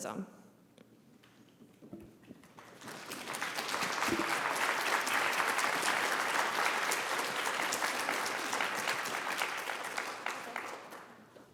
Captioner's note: applause